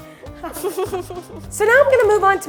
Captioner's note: laughter